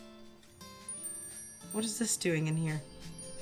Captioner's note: bells chiming